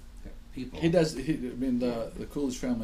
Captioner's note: voiceover